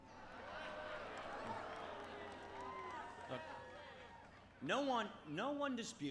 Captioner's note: crowd shouting